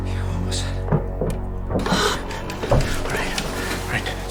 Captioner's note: rattling continues